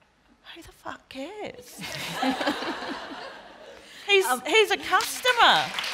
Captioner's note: laughter; applause